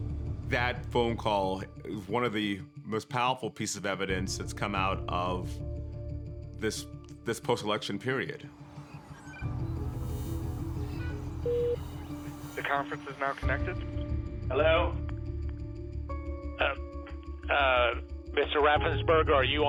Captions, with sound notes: >> That phone call is one of the most powerful pieces of evidence that's come out of this, this post-election period. (electronic beeping, indistinct chatter) (connecting tone) >> Oh-- uh...